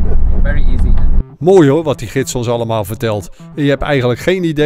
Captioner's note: voiceover